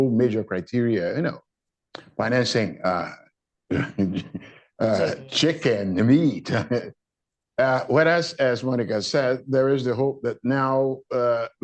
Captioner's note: laughs